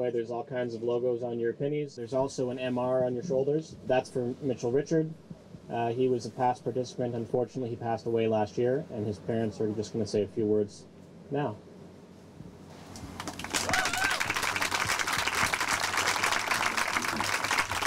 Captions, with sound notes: there's all kinds of logos on your pinnies. There's also an MR on your shoulders. That's for Mitchell Richard. He was a past participant. Unfortunately, he passed away last year. And his parents are just going to say a few words now. [APPLAUSE]